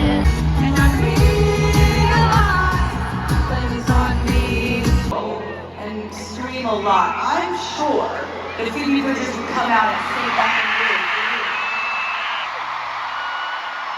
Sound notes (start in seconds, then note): 9.5 screaming